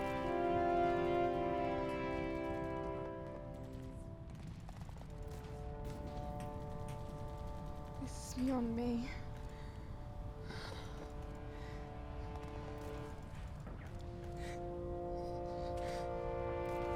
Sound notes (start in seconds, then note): 10.2 Mia sobbing; 10.2 somber music